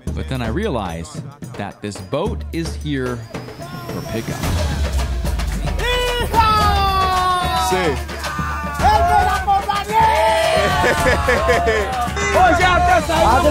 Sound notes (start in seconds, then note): 4.4 rhythmic music; 6.0 locals shouting excitedly; 10.4 laughing